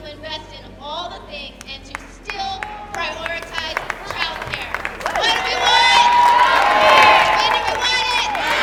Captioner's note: chanting